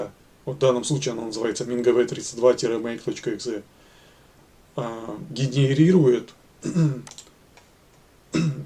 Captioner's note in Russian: откашливается